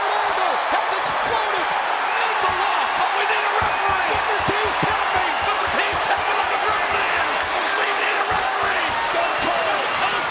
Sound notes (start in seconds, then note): 0.1 presenter speaking faintly off mic; 2.3 crowd cheering; 5.6 overlapping chatter